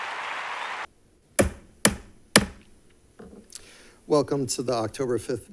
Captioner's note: gavel banging